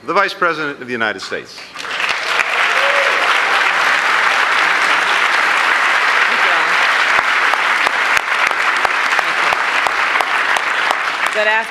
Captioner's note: applause